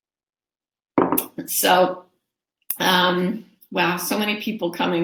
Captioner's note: thud sound